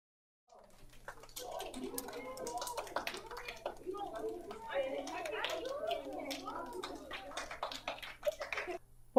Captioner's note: students clapping